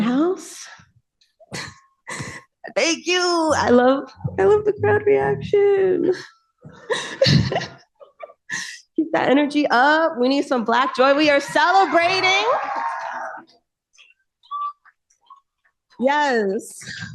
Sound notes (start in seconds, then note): 13.8 cheering